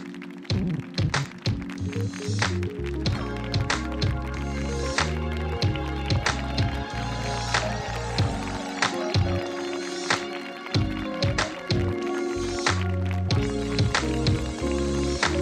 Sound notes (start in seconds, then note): 5.6 audience applauding; 5.6 audience cheering